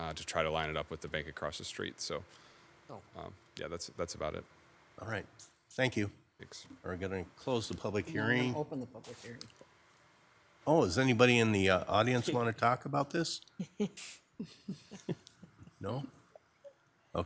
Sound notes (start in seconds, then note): 14.4 attendees laughing